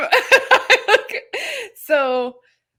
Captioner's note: laughing